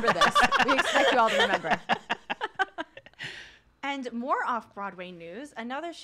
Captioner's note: laughs